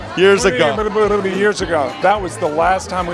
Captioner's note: blubbering